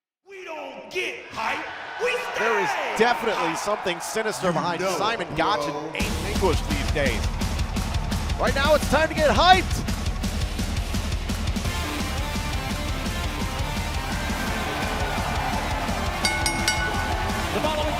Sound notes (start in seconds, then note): 0.2 crowd cheering; 10.9 crowd cheering; 16.2 bell ringing